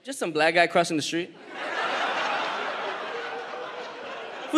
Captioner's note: audience laughs